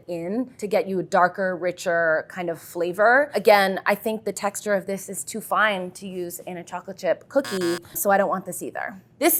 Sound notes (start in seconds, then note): 7.4 buzzer sounds